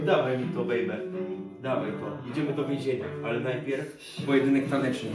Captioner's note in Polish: none